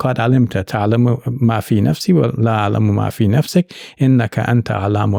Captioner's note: speaking in Arabic